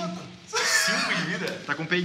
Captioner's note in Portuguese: risada